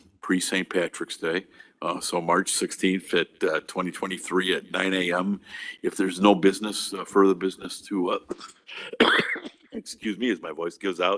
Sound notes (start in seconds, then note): 8.2 coughing